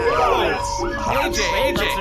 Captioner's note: Bargie’s voice continues to echo with feedback and grows louder; the crew yells in aural pain